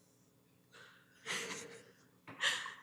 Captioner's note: chuckles